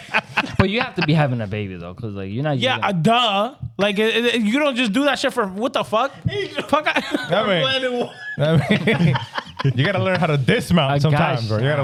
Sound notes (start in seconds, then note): 8.5 laughing